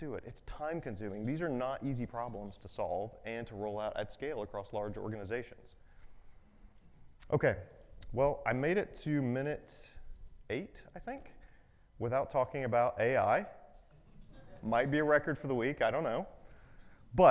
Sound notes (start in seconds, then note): 14.0 audience chuckles